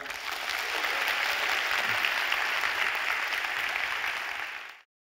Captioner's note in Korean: 박수